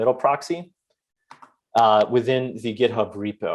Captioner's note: keyboard clicks